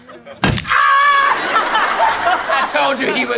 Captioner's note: man screams; laughing